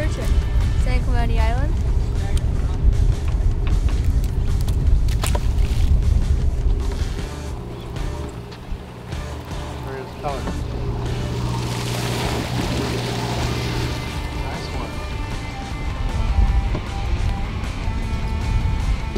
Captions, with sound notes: Nice bluefin. San Clemente Island. [clipping sound] [water splashing] There is color. [loud sound of boat engine] [water splashing]